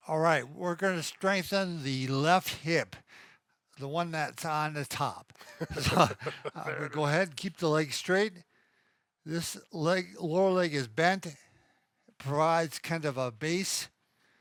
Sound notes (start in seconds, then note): 5.4 chuckles